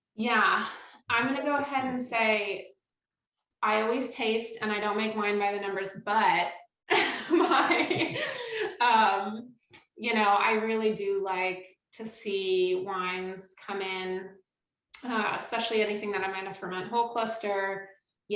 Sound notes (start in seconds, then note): 7.3 laughs